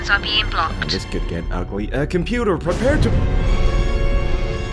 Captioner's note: explosion